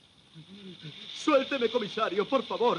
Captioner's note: sonajeros de serpientes